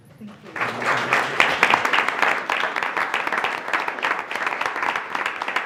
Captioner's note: board members applauding